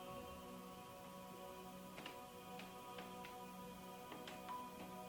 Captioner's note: distant footsteps